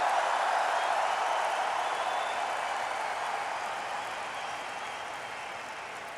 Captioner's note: applause